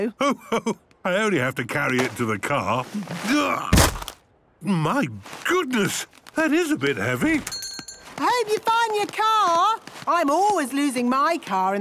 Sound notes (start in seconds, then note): 3.7 thuds